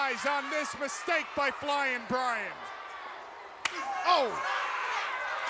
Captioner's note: blows thudding